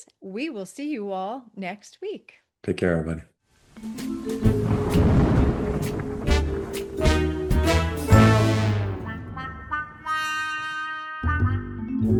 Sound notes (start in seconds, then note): 3.8 inquisitive music playing; 4.4 thunder rumbling